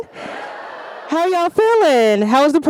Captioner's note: audience cheering